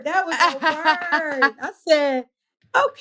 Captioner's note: laughs